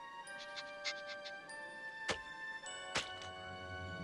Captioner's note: sniffs